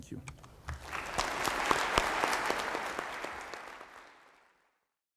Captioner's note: applause